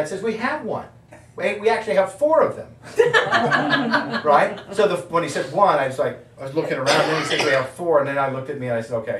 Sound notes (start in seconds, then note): 3.0 audience laughing